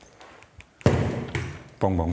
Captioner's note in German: Dumpfes Geräusch